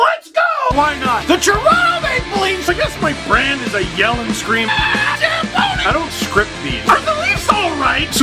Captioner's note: rock music plays throughout intro; screams